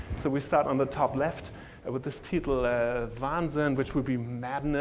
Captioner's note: speaking german